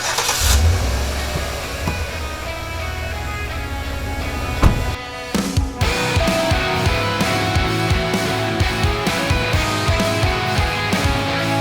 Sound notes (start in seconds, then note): 3.3 car engine revving; 5.3 upbeat music